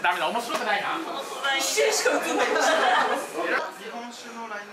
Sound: laughs

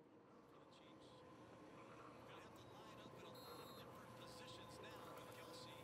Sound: TV announcer speaking faintly

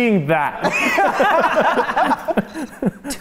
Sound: laughing

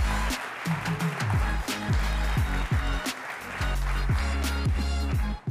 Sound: applause

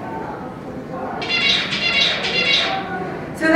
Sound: bird song

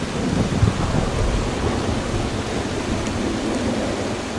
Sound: thunder

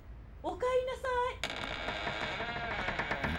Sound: creak

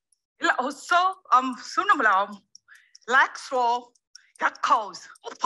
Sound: speaking gibberish

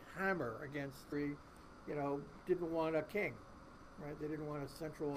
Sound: voice muffled

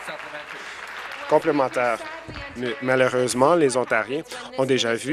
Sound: applause

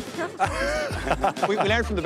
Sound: Declan laughs

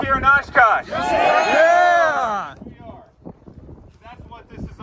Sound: cheers

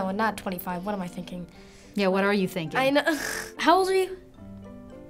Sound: snickers

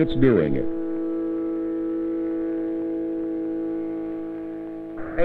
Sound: plane engine

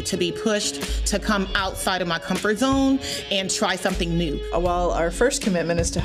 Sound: none

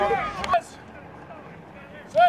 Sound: chatter

